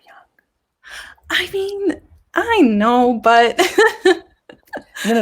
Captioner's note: laughs